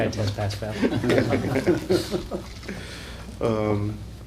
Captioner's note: laughter